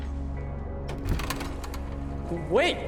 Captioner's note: door opens